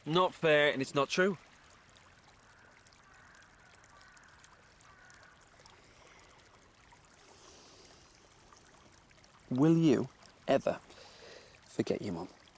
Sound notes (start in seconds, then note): none